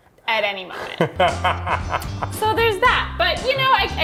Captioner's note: laughing